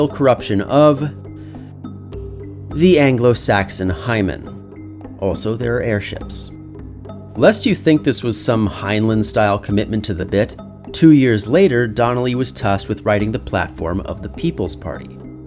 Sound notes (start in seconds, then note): 1.2 deep breath